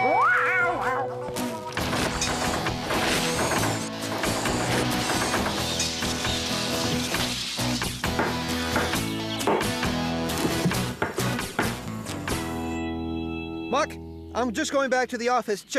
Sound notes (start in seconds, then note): 8.4 whap! Whap! Whap!